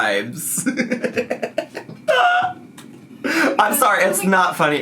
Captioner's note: laughs